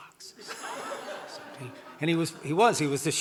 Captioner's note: audience laughing